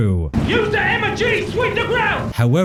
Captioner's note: british noises